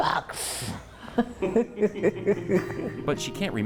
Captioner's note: laughs